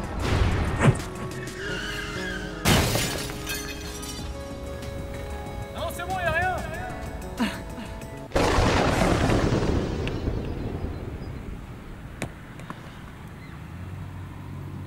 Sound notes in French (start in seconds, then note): 1.6 freinage brusque; 8.3 bruit de foudre